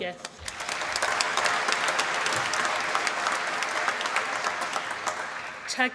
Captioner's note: applause